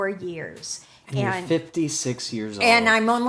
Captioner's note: laughs